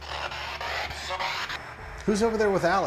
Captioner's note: spirit box voice